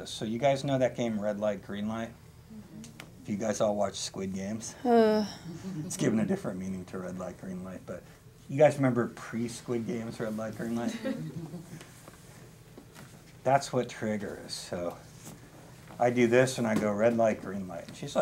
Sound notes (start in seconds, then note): 4.8 sighs; 10.8 chuckling